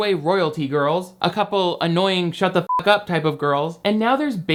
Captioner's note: beep